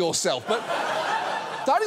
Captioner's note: audience laughing